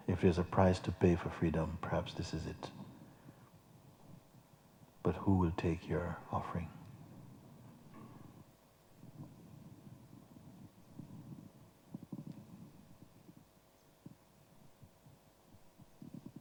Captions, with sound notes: If there is a price to pay for freedom, perhaps this is it. But who will take your offering? [silence]